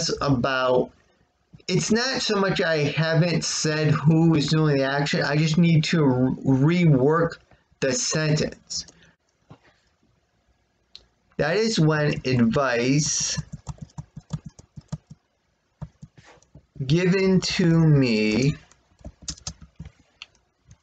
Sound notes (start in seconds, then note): 13.0 tapping of keyboard; 15.8 continued tapping of keyboard